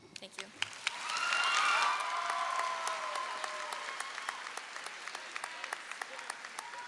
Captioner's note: audience clapping and cheering